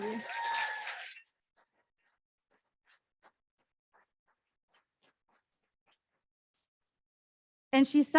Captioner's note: applause